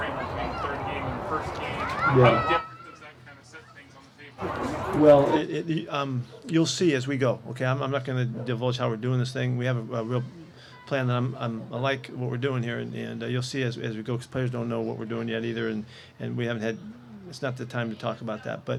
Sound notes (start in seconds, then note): 0.0 people playing; 0.2 kid yelling; 3.7 trails off